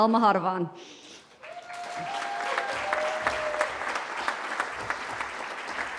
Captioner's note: cheering